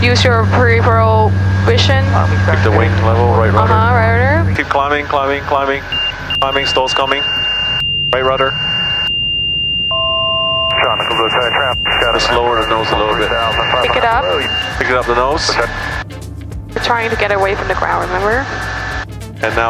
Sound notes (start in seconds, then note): 5.9 beeping noises; 9.6 plane noises